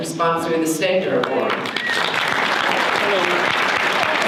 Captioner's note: audience applause